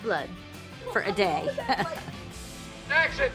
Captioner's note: chuckles